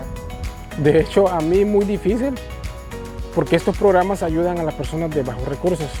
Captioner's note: speaking in Spanish